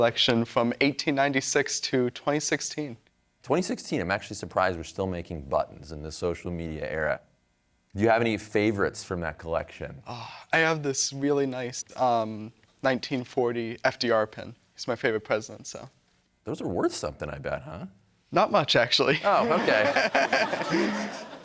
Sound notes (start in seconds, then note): 10.0 sighs; 19.2 laughs; 19.2 audience laughing